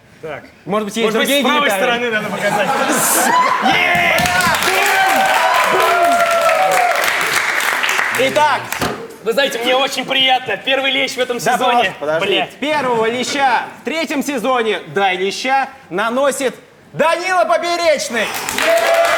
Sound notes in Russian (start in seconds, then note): 3.8 Аплодисменты; 18.2 Аплодисменты